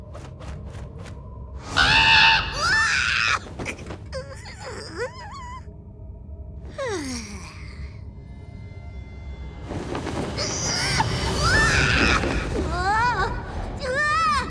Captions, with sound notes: [squawking] Ah! [sighing] Uh! Ah! Whoa! Ah!